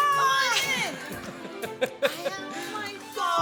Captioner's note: laughs